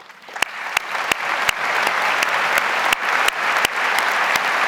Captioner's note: audience applauds